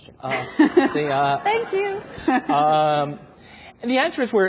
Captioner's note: everyone laughs